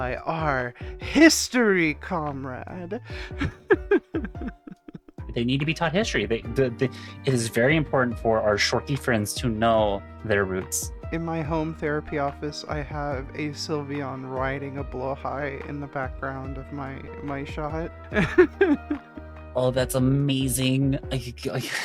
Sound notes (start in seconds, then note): 2.8 laughing; 18.1 laughing